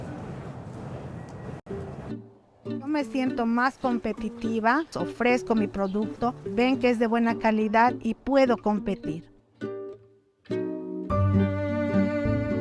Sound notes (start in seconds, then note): 1.9 video in spanish